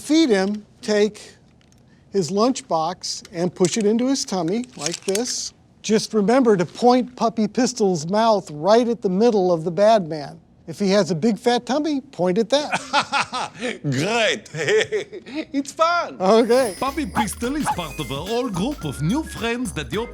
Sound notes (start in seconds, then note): 12.6 laughs